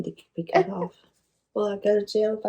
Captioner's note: laughs